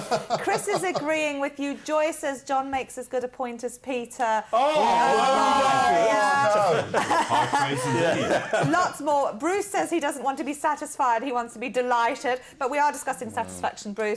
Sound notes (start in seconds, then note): 4.5 all saying oh